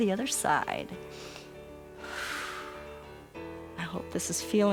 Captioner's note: inhales and exhales